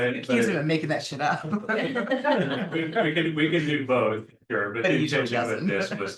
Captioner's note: laughs